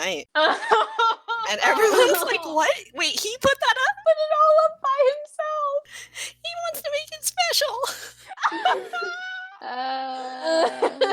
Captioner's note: more crying laughter